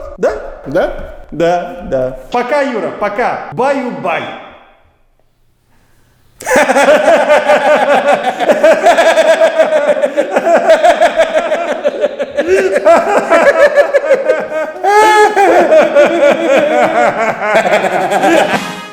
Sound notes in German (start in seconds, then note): 6.4 Lachen